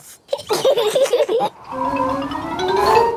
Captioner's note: both laughing